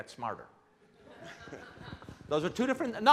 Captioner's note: laughing